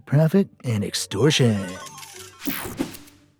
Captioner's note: slot machine jackpot SFX